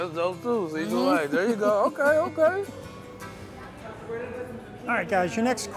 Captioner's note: laughs